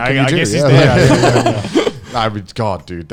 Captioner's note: laughing